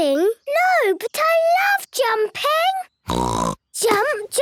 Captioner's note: snort